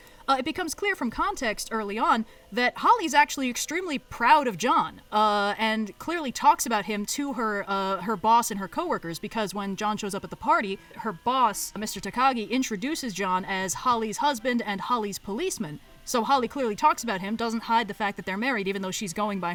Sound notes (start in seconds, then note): none